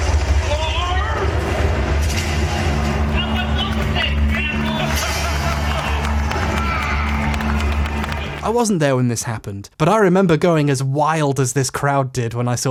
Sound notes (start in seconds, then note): 5.3 crowd laughing; 6.8 applause